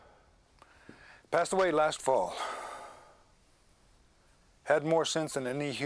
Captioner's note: sighs